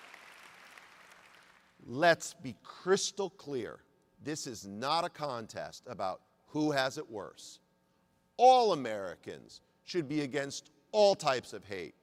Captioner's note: applause